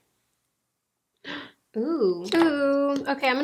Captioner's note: gasps